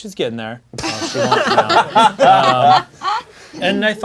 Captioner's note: crowd laughing